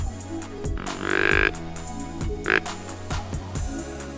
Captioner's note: call grunting